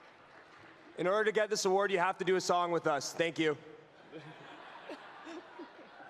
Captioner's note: applause